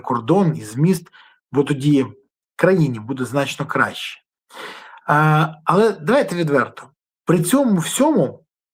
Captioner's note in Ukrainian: сопіння